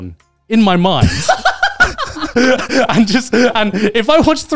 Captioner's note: laughing